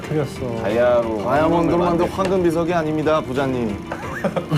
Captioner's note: rumbling